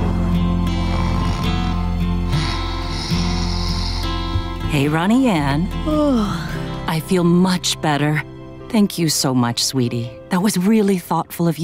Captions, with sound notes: [snoring] Hey, Ronnie Anne. [yawning] I feel much better. Thank you so much, sweetie, that was really thoughtful of you.